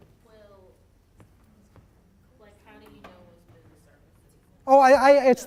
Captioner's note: voiceover